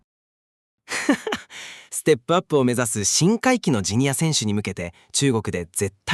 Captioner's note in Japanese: 笑い